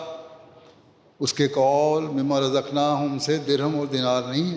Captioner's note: Arabic